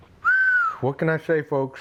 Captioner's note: whistles